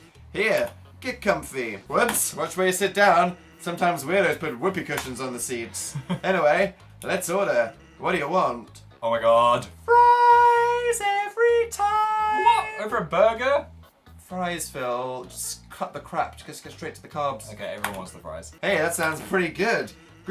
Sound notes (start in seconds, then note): 5.7 laughs; 10.0 singing